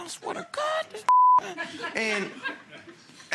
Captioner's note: beep